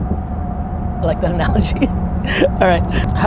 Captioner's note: laughs